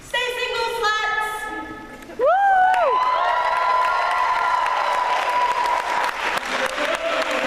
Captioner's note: applause